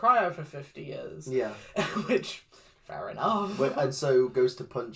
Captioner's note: chuckles